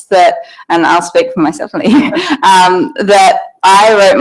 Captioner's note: laughs